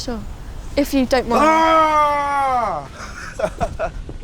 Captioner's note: roars